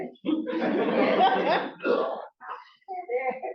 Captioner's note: laughter